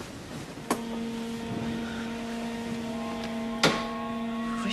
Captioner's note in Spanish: Pitidos de las fábricas